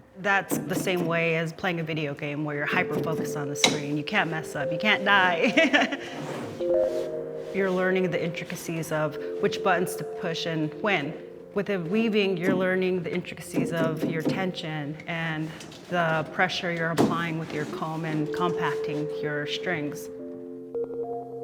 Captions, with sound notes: That's the same way as playing a video game where you're hyper-focused on the screen. You can't mess up, you can't die. (laughs) You're learning the intricacies of which buttons to push and when. Within weaving, you're learning the intricacies of your tension and the pressure you're applying with your comb and compacting your strings.